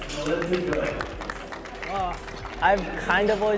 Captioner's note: crowd applauds